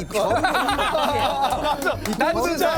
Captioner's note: applause